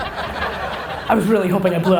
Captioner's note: audience laughter